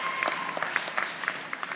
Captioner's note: applause